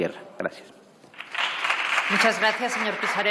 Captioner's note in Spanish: Aplausos